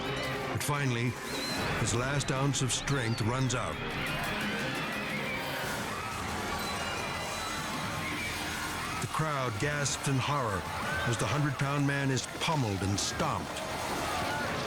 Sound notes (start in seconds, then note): 4.1 onlookers screaming